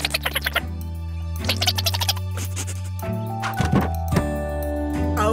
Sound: squeaking

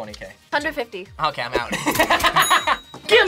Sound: laughs

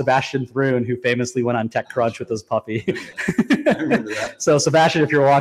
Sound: laughs

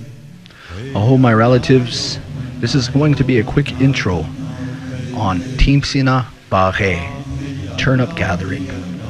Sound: nakona language spoken

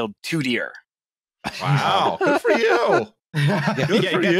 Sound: laughter

